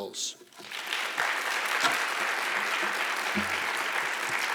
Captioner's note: audience applauding